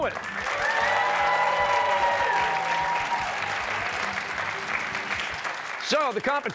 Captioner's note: cheers and applause